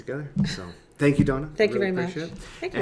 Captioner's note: laughing